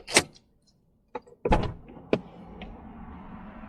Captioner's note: sound of door opening